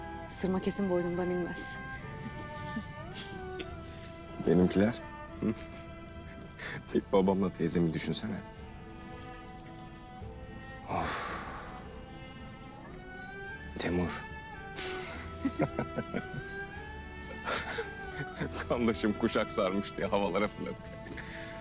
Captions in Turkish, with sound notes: Sırma kesin boynumdan inmez. [Gülüyor] Benimkiler, hı? [Gülme sesi] Bir babamla teyzemi düşünsene. Offf. Temur? [Gülme sesleri] Kandaşım kuşak sarmış diye havalara fırlatıcak.